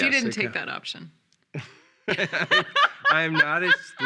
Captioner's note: laughing